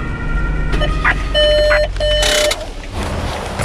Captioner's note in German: Piepton